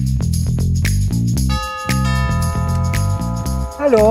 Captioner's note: cool music; ringing